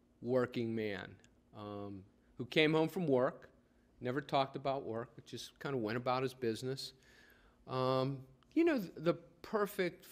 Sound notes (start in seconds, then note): none